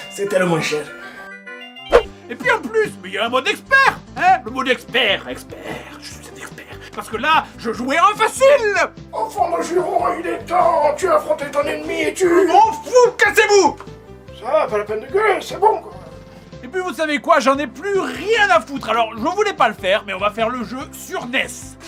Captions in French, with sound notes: (Musique clownesque) C'était le moins cher. Et puis en plus, mais il y a un mode expert ! Hein, le mode expert (Voix malicieuse) Expert... je suis un expert... Parce que là, je jouais en FACILE ! Enfant de jurons, il est temps ! Tu as affronté ton ennemi et tu JE M'EN FOUS ! CASSEZ-VOUS ! Ça va, pas la peine de gueuler, c'est bon ! Et puis, vous savez quoi, j'en ai plus rien à foutre ! Alors, je voulais pas le faire, mais on va faire le jeu sur NES !